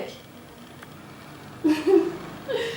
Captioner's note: girl laughing